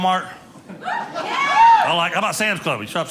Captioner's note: audience cheering